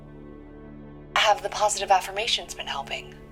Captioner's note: on phone